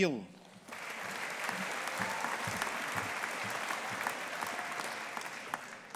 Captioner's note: audience applauding